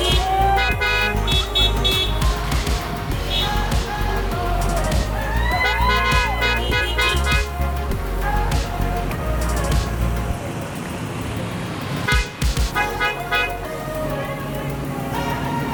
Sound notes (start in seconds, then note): 4.9 crowd cheering; 12.1 horns honking